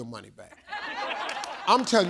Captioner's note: audience laughing